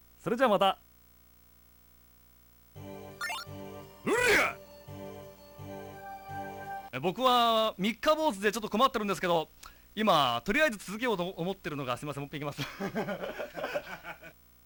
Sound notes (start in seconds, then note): 9.0 smacks lips